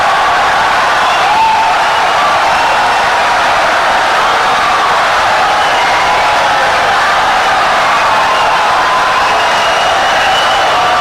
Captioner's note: wild applause and cheering for 17 seconds